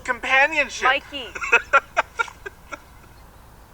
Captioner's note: laughs